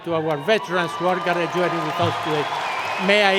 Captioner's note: cheering and Applause